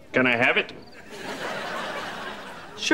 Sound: chirping

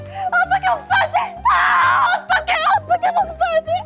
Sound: Cheon Song-yi screaming

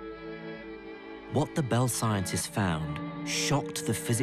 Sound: voiceover

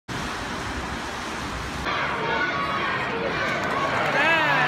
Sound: cheering

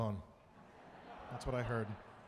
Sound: audience laughing

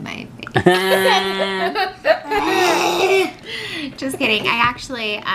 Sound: all laughing

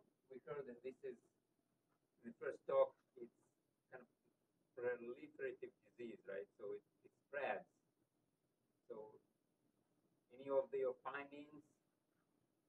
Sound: off microphone

